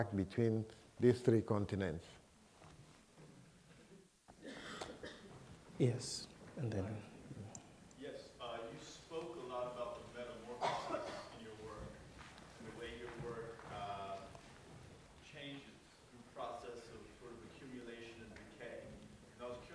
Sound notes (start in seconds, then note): 8.5 voiceover; 10.5 coughing